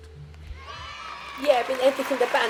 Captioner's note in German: Jubel